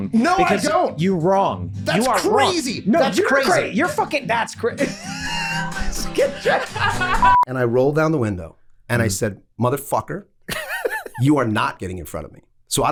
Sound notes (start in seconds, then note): 4.8 laughing; 7.2 beep